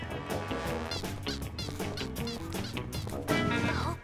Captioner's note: spy music; squeaking